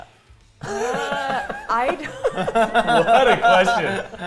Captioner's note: laughs